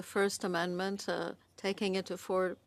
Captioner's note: speaking French